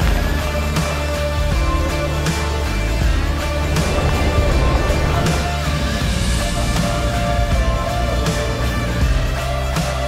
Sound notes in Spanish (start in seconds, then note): 1.5 motores acelerando